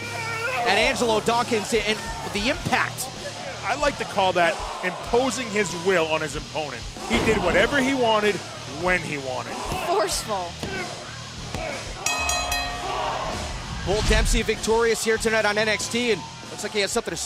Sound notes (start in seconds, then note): 12.0 bell ringing